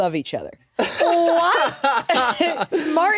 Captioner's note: laughs